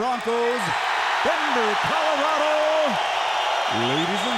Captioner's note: crowd cheering